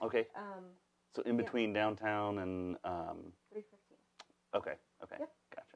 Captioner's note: mumbles